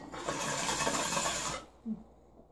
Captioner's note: inhaling